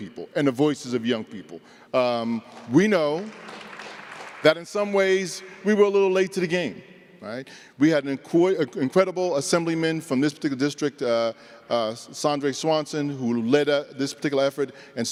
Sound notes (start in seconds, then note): 2.4 applause